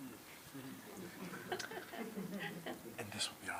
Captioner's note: laughs